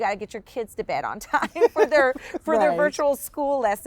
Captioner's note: laughs